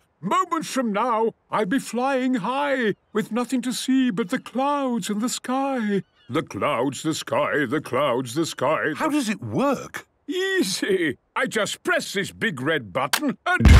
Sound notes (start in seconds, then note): 6.3 sing-sing voice